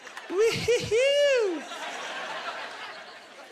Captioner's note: laughing